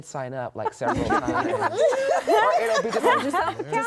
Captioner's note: laughter